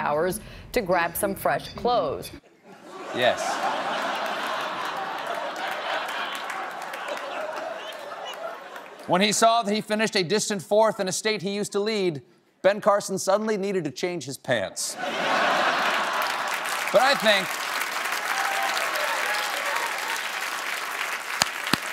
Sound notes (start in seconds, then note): 4.9 laughter; 14.9 laughter; 15.6 applause